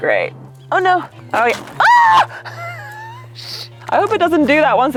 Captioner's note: laughing